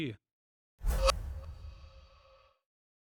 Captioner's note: swooshing